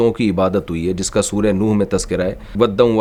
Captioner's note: Arabic